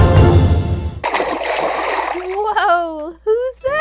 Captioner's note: playful music; water splashing